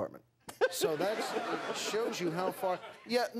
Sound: laughter

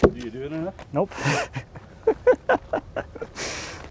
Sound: laughing

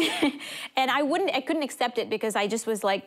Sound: chuckles

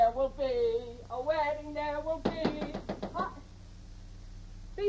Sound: door knocking

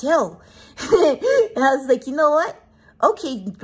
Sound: laughs

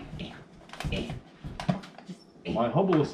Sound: grunting

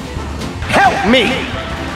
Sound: echoing

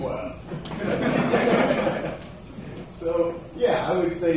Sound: laughter

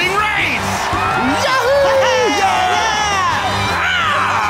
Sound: cheering

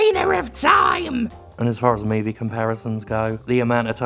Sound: mutters

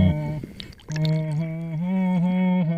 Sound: humming

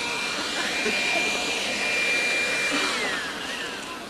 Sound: sound of Dustbuster

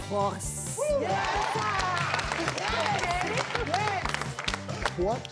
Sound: audience applauding

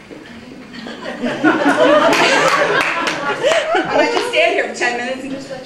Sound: laughter

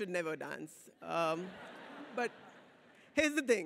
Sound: audience laughs

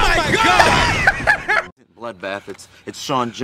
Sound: laughs

